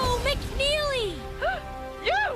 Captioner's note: gasp